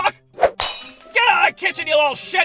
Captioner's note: glass bottle shatters